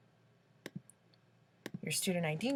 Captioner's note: click